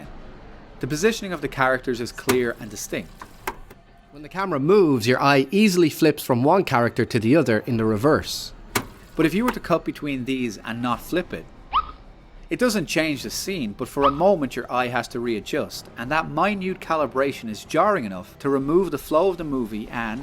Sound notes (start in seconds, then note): 2.2 rewind sound; 3.2 click